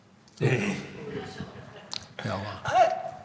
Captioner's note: chuckling; mumbling